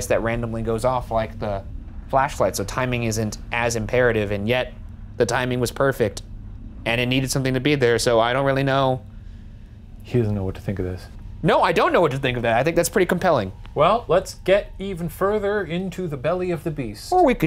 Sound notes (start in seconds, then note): none